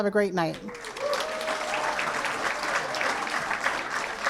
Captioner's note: applause